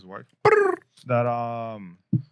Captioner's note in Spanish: Imita el sonido de un pájaro